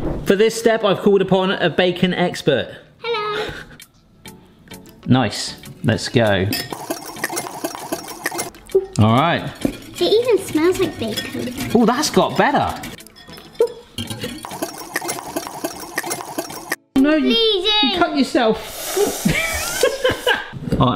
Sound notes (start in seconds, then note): 14.0 whisk rattling; 19.3 laughs